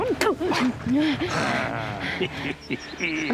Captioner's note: Promise spits; Wild Eye chuckles